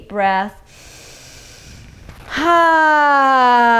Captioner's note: inhales deeply